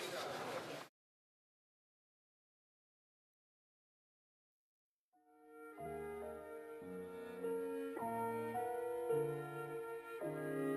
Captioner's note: speaking French